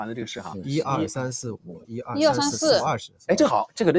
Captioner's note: laughs